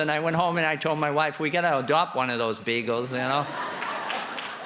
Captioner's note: laughter and applause